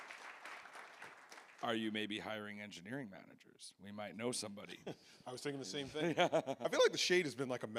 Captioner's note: applause